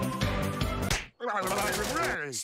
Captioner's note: slap